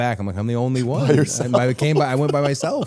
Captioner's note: laughs